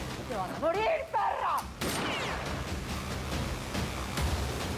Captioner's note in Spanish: detonación de disparo